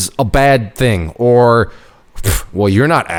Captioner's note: snorting contemptuously